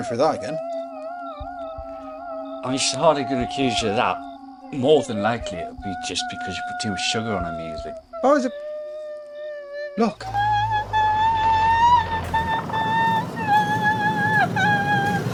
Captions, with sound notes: I ain't going through that again. (Mrs. Wells yelling) - I mean, she's hardly gonna accuse you of that. More than likely it'll be just because you put too much sugar on her muesli. - How is that? (Mrs. Wells yelling) Look. (Mrs. Wells yelling)